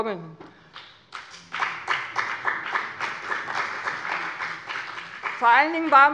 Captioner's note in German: Beifall bei dem BÜNDNIS 90/DIE GRÜNEN und der CDU